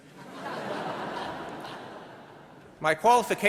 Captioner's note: audience laughing